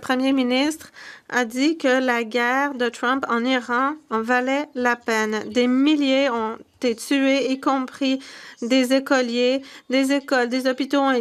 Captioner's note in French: voix de l'interprète